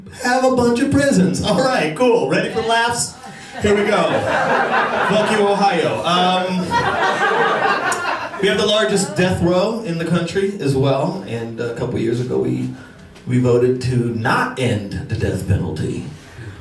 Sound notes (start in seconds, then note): 4.6 laughter; 6.5 laughter